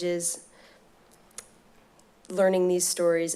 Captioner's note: smacks lips